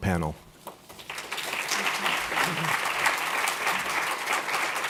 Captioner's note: audience applauding